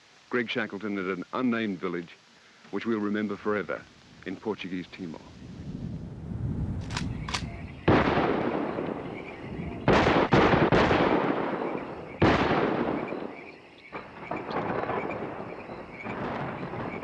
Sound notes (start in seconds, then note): 6.8 camera clicks; 6.8 gunshots booming; 11.9 insects chirring